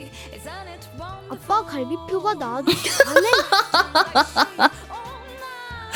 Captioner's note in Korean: 웃음